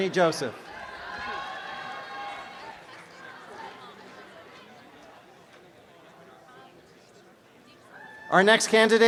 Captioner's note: applause and cheering